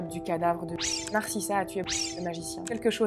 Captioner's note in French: bip